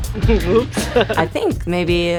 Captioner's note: laughs